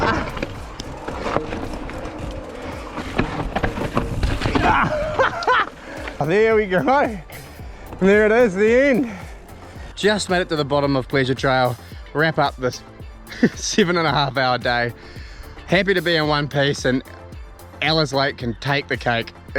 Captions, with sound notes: Ah! (groans and laughs) There we go! There it is, the end. Just made it to the bottom of Pleasure Trail. Wrap up this, seven and a half hour day. Happy to be in one piece and Alice Lake and take the cake.